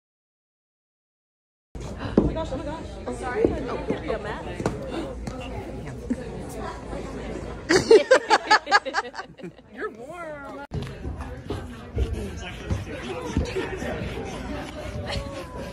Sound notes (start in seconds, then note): 1.1 laughter